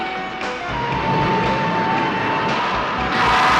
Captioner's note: roaring